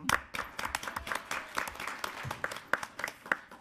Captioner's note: applauding